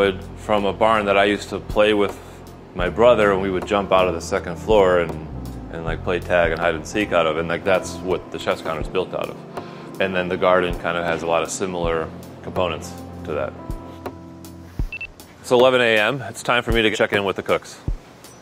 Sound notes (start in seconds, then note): 14.8 timer beeping